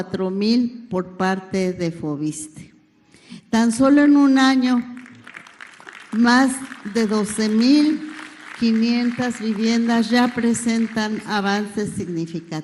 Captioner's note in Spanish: aplausos